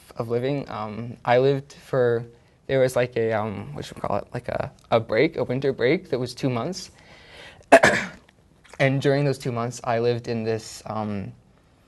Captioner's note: coughs